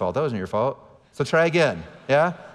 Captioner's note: audience laughing